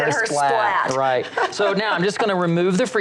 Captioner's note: laughs